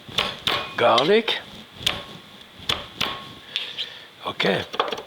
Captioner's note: hand hammering